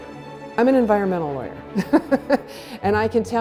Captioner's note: laughing